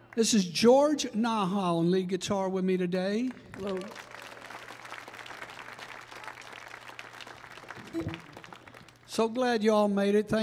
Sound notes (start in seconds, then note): 3.3 audience applauding